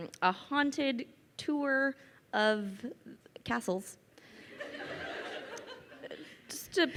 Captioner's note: crowd laughing